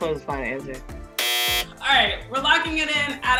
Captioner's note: buzzer sounds